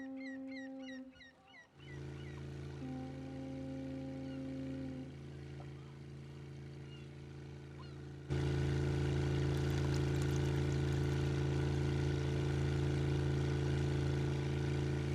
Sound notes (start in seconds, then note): 2.0 engine rumbling; 9.3 alcohol splashing